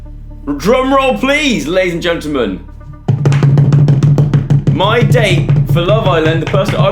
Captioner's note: bangs on desk in excitement